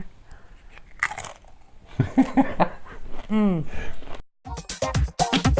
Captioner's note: crunch; laughter